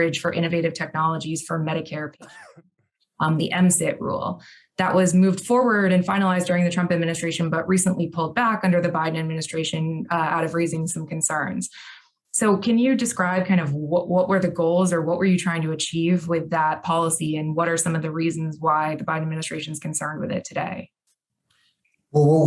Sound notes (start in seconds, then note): 2.2 coughs